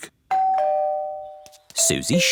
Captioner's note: doorbell